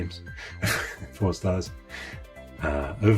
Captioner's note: laughing